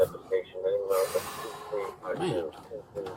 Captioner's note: radio chatter